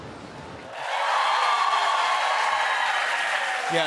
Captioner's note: cheers and applause